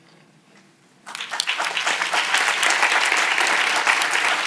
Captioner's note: audience applauds